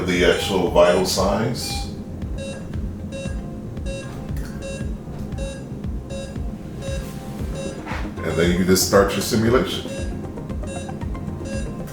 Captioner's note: beeping